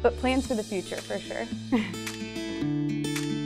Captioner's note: giggling